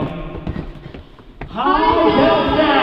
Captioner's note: rapid footsteps